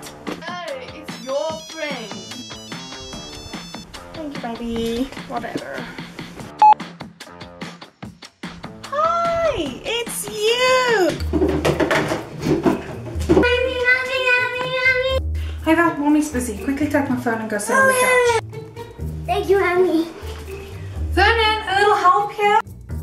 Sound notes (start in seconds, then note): 6.6 answer Dial Tone